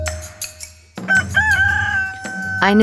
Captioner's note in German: Erneutes Krähen